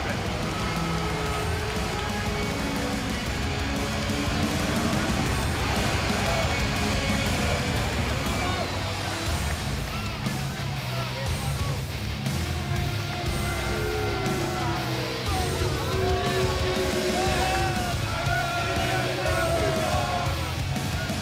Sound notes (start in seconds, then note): 4.6 crowd cheering